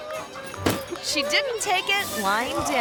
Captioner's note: purse thuds